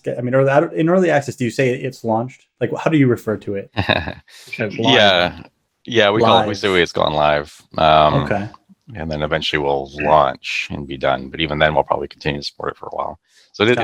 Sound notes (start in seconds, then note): 3.7 laughs